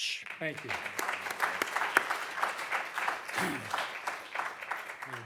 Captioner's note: audience clapping